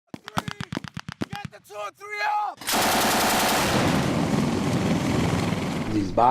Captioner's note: sounds of gunfire and helicopter